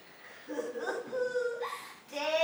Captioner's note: MONOKUMA chuckles